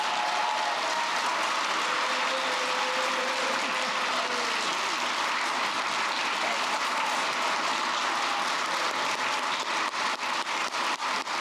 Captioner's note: applause